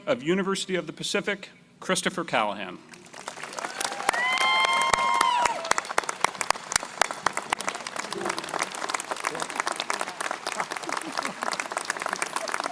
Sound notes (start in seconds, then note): 3.0 crowd applauding; 3.2 crowd cheering